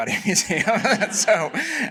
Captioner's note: laughter